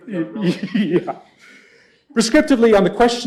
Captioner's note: laughing